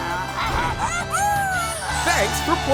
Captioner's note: squawking